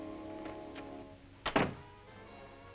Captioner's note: door slams